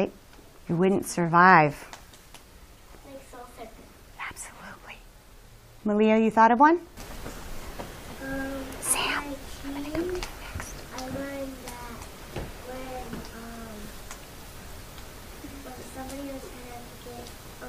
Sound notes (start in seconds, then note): 7.9 whispering